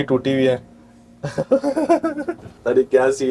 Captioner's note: laughing